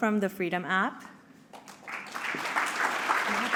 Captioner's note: applause